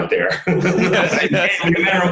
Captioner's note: both laugh